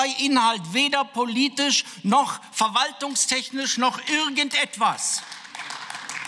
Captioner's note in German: Beifall